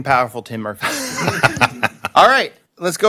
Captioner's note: laughter